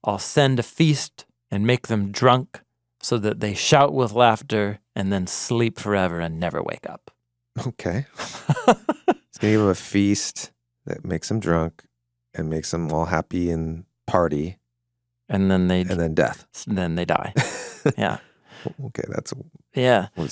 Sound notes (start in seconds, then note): 8.1 laughing; 17.3 chuckling